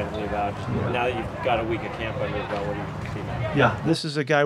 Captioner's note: faintly speaking